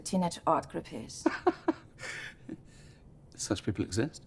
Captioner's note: laughing